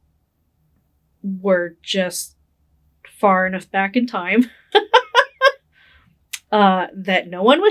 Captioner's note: laughing